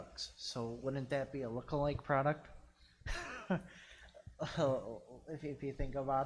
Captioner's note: laughs